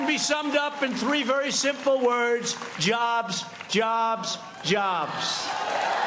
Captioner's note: cheers and applause